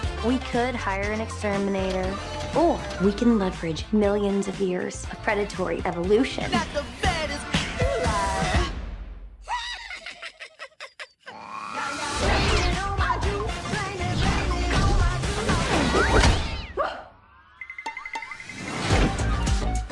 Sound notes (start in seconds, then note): 9.5 laughs; 11.3 growls